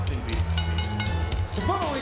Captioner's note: lively music continues; bell ringing